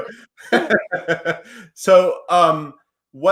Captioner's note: laughing